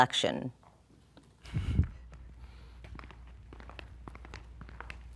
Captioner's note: footsteps thumping